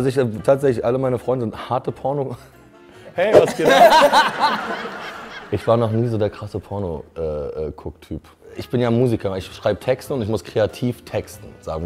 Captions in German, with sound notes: Nein, also tatsächlich, alle meine Freunde sind harte Porno-... Hey, was geht ab! (Gelächter) Ich war noch nie so der krasse Pornogucktyp. Ich bin ja Musiker, ich schreib Texte und muss kreativ texten.